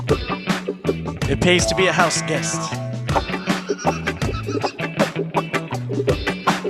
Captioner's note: laughter